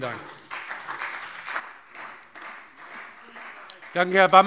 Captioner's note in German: Beifall CDU und BÜNDNIS 90/DIE GRÜNEN